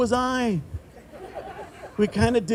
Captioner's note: group laughing